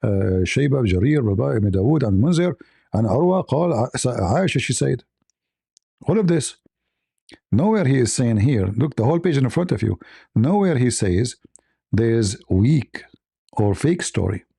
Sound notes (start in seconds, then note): 2.9 Arabic